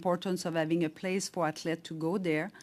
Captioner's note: speaking French